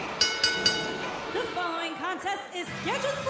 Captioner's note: bell